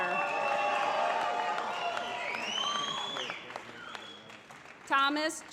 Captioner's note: applause